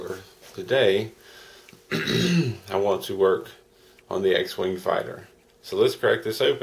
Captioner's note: clears throat